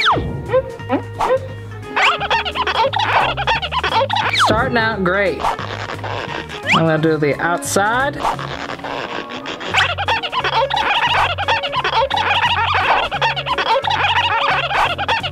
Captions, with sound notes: (marker screeches) Starting out great. (marker screeches) Then I do the outside. (marker screeches)